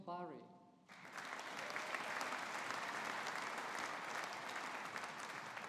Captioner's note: audience applauding